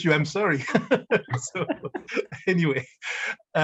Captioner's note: laughing